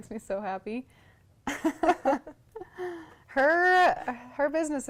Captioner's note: laughs